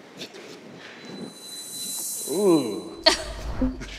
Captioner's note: whooshes